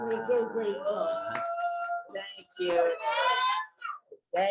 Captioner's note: audience clapping and cheering